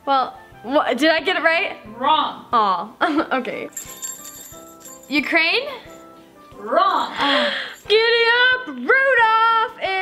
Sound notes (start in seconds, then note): 3.7 bell tinkling